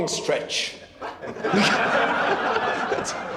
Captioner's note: laughter